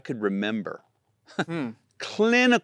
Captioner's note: chuckles